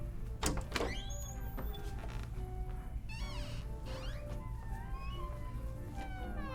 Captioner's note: creaks; door clatters